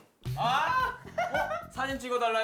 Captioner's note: laughing